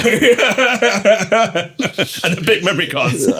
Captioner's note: laughing